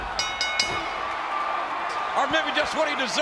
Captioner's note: bell ringing